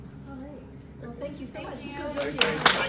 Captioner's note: applause